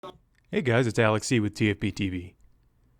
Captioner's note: voiceover